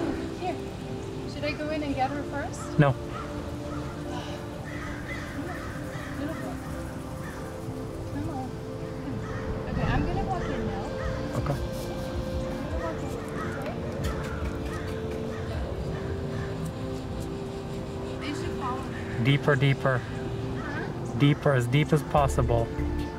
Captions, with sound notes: Here. Should I go in and get her first ? No. [Sigh] Come on. Little more. Come on. Okay I'm gonna walk in now. Okay. I'm gonna walk in okay? [Kissing sounds] They should follow me. Deeper, deeper. Huh? Deeper, as deep as possible.